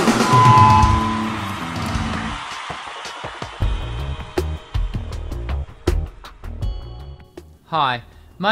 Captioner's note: drumroll; applause and cheers